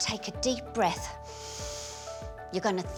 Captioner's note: both inhaling